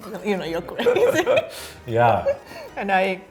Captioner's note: laughing